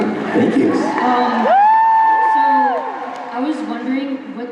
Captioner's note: crowd cheers